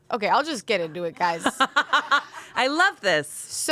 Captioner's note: laughs